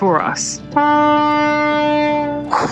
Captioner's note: loud ferry horn sounds